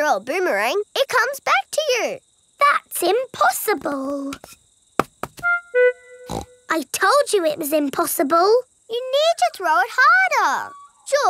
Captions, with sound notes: but when you throw a boomerang, it comes back to you! That's impossible! (SNORTS) I told you it was impossible. You need to throw it harder.